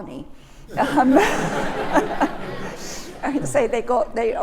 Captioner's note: laughter